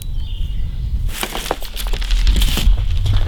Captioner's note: none